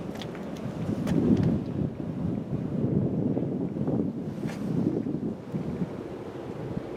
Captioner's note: wind